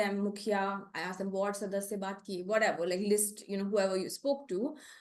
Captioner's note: non-english speech